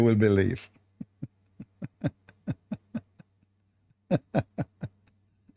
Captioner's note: Ketawa